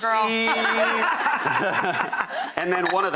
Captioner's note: laughs